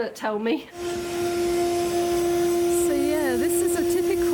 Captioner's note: loud hoovering